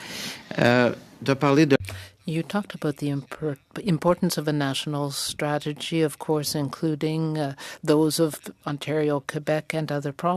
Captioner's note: speaking French